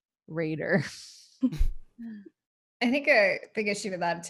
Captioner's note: laughs